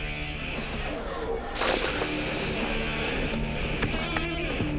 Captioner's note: boots thudding; upbeat rock music